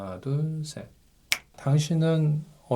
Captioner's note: snap!